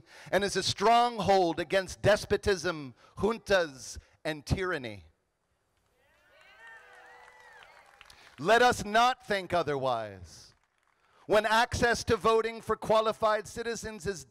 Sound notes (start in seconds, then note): 6.2 crowd applauding